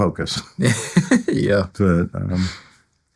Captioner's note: laughing